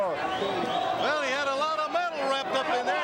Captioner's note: crowd chatter